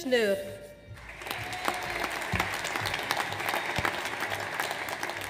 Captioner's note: audience applauds